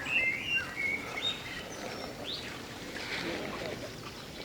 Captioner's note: birdsong continues